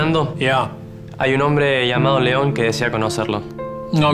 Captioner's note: Spanish